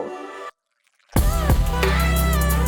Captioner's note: water flowing sound; upbeat music continues